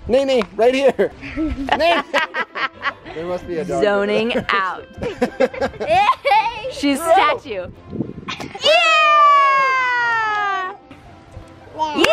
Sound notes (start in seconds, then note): 5.0 laughs; 8.6 family cheers